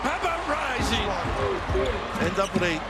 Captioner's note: crowd cheers